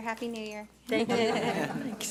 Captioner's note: board members laugh